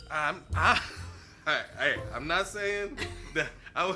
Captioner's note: laughs